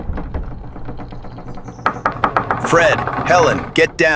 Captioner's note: SFX: hollow metal groaning